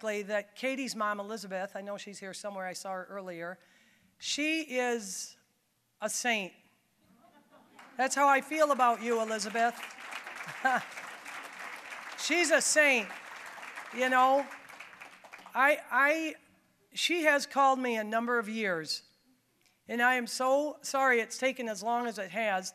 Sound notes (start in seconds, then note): 9.8 applause